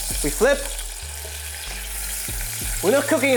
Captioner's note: sizzling sound